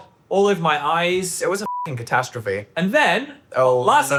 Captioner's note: beep